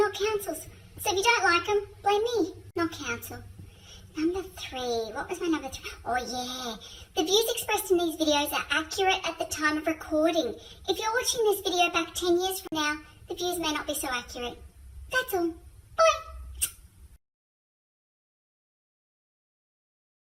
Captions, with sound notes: not Council's, so if you don't like them, blame me, not Council. Number three, what was my number three, oh yeah, the views expressed in these videos are accurate at the time of recording. If you're watching this video back 10 years from now, the views may not be so accurate. That's all, bye. (smooch)